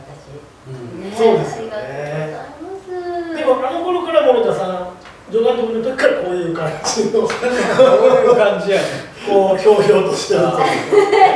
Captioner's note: laughs